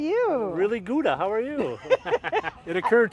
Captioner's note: laughs